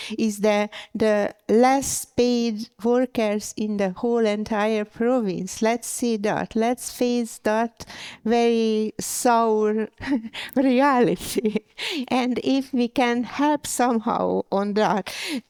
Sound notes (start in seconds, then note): 10.8 laughs